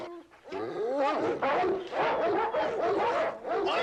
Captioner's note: barking continues